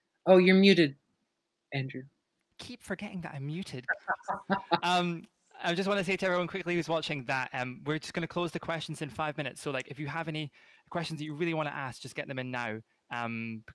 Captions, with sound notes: - Oh, you're muted, Andrew. - Keep forgetting that I'm muted. (laughs) I just wanna say to everyone quickly who was watching that. We're just going to close the questions in five minutes. So if you have any questions that you really wanna ask, just get them in now,